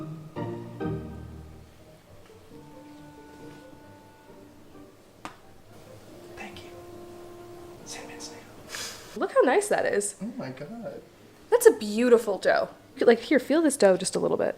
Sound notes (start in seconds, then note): 7.3 whispers